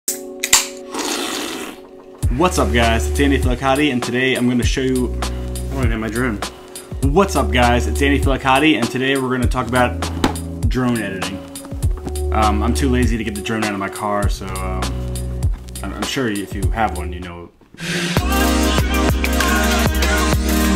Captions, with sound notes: (can opening) (slurping) - What's up guys, it's Andy Feliciotti, and today I'm gonna show you... I don't know what I did with my drone. What's up guys, it's Andy Feliciotti, and today we're gonna talk about drone editing. I'm too lazy to get the drone out of my car, so I'm sure if you have one, you know... (energetic music)